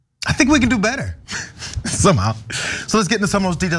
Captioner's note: laugh